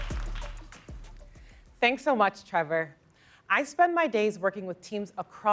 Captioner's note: applause